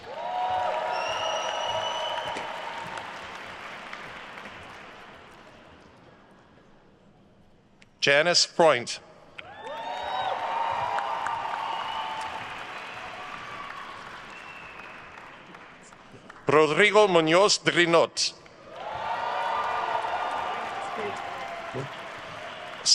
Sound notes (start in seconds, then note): 0.0 attendees cheering and applauding; 9.4 attendees cheering and applauding; 18.5 attendees cheering and applauding